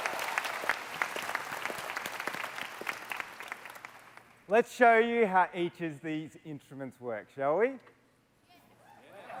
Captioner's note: cheers and Applause